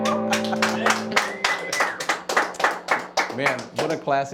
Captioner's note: applause